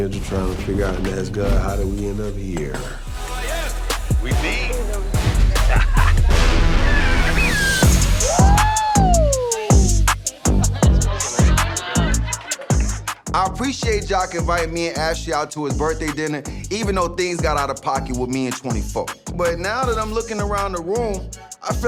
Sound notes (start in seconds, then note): 5.3 laughs; 6.9 upbeat music; 10.1 upbeat music; 10.2 attendees chattering